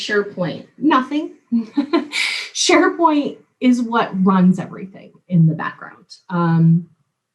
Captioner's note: laugh